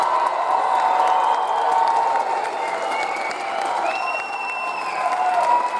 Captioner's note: audience cheers and applauds